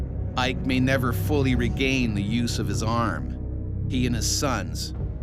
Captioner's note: voiceover